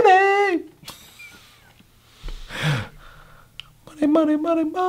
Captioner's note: laughs